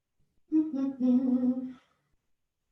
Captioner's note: hums